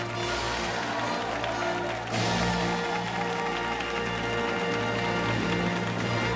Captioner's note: fanfare playing; cheers and applause